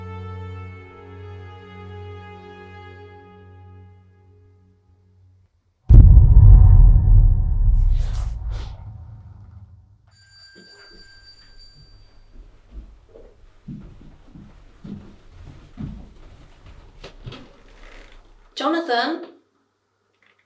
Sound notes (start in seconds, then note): 10.6 bell rings